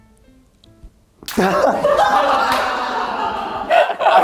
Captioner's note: failed to hold in his laughter; the studio erupts into laughter